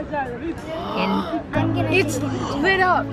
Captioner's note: gasping